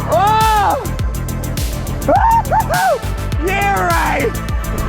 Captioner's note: screams